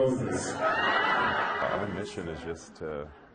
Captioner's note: laughing